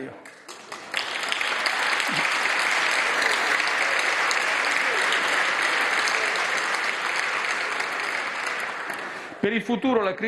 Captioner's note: maxi roar of applause